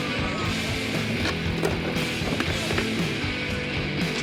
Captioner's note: clattering